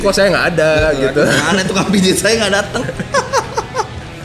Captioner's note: laugh